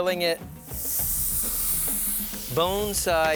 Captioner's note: chicken sizzling